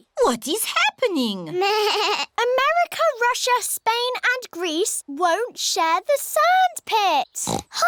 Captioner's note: bleats; oinks